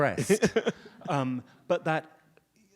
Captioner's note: audience laughs